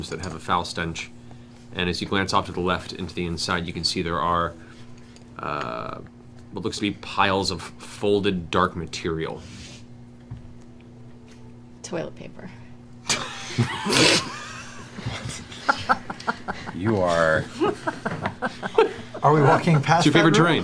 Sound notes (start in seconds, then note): 13.0 laughter